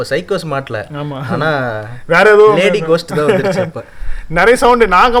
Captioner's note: indistinct laughter